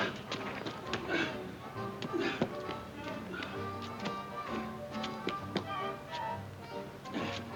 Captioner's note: gentle music; Ollie panting